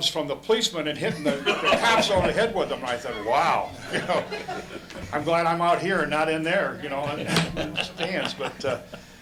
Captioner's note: laughter